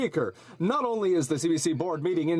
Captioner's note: speaking French